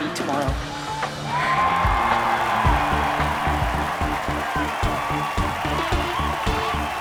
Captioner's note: lively music; crowd cheering